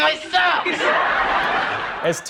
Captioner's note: laughter